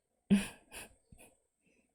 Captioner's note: chuckles